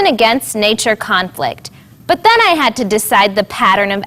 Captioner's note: none